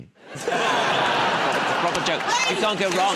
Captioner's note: laughter